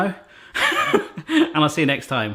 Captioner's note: laughs